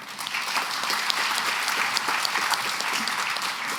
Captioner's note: applause